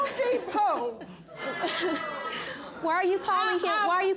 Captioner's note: chuckling